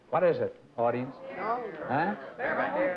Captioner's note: muttering